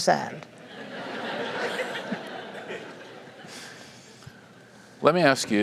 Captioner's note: laugh